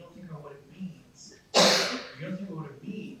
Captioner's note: coughs